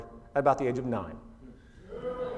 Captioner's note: oohs